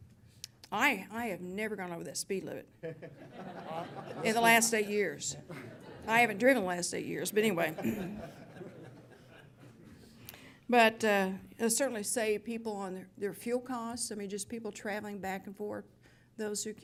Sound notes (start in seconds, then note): 2.8 laughter; 7.6 laughter